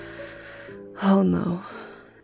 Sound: her voice giving quickly to dismay

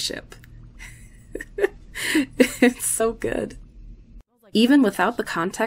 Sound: chuckles

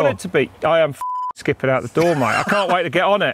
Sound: beep

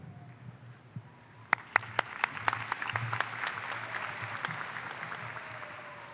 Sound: applause

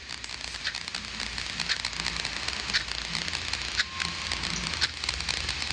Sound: clock ticking

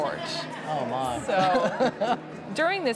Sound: laughs

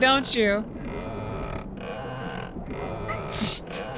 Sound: loud Wooden Creaking

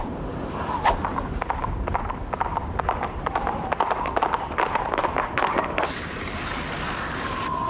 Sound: wind blowing; blade of sword whizzing; horse galloping

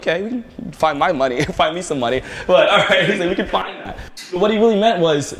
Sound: laughter

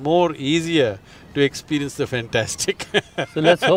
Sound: laughs

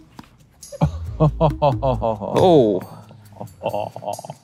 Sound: chuckling

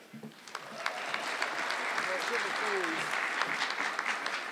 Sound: audience clapping

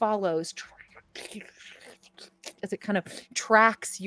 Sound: squelching

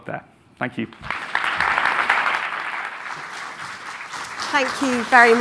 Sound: audience applauding

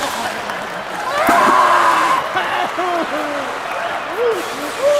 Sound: screaming in pain

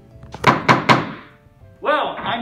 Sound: gavel Bangs

